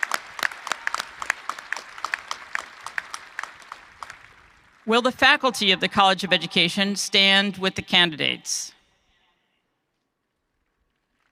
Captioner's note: cheering and applause